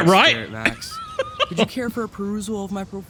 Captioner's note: laughs